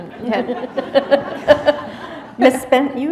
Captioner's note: laughter